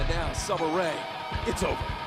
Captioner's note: bell ringing